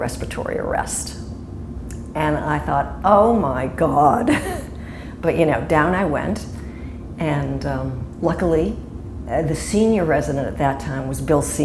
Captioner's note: chuckle